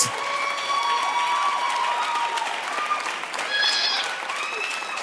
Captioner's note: audience cheering